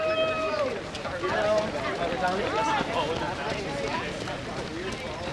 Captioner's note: crowd noise